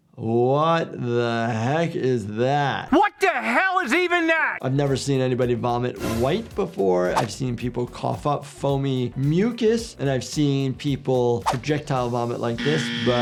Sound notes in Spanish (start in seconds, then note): none